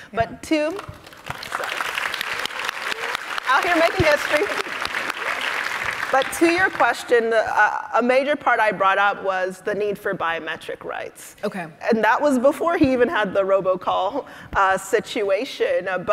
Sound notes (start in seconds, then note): 0.8 audience applauding